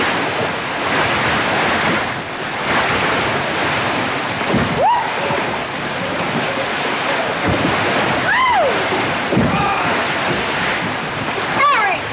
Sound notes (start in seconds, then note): 5.2 squeals; 8.8 squeals; 9.4 shouts